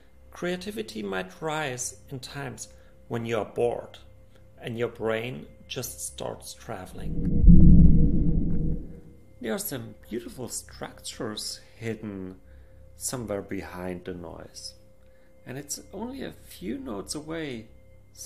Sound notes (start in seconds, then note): 6.9 rumbling sound